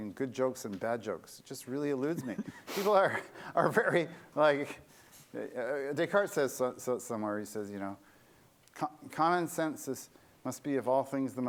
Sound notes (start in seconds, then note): 2.1 laughter